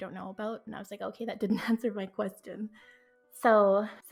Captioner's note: laughs